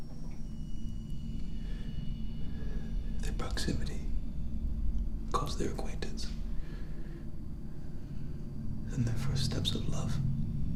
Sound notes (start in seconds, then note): none